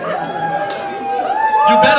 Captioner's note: audience cheers